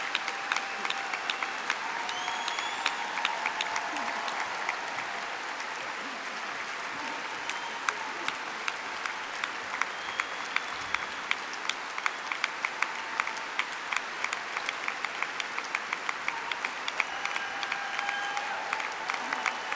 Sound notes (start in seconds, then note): 7.5 applause; 7.5 cheering